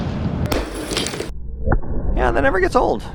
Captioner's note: ice exploding